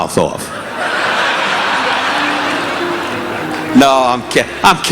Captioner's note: audience laughing